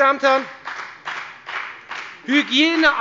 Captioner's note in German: Beifall bei der FDP